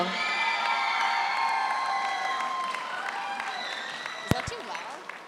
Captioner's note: audience cheers; audience applauds